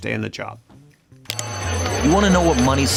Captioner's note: phone rings